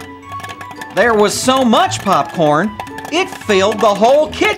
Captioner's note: popcorn pops